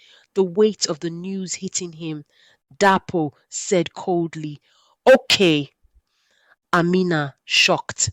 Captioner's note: said coldly